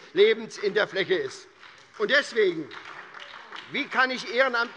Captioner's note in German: Beifall bei der SPD